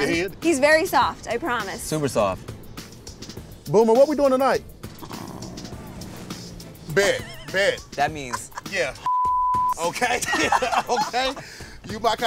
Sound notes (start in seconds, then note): 3.4 purring; 6.9 beeping; 8.3 laughing